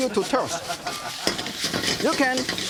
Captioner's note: audience laughing